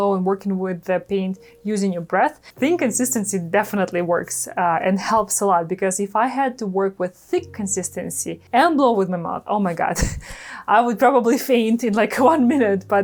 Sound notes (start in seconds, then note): 10.0 chuckles